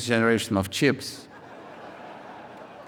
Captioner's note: audience laughs